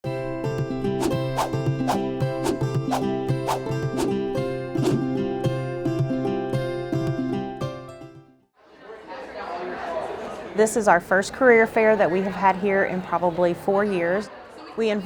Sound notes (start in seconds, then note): 0.1 upbeat music; 8.6 faint chatter